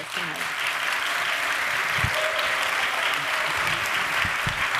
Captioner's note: audience applauds